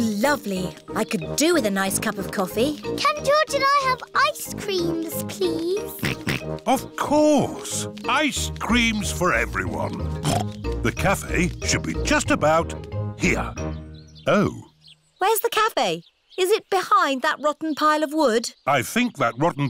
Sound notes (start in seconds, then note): 6.7 snorts